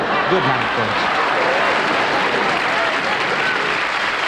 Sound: applause

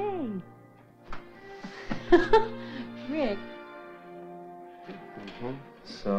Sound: lightly laughs

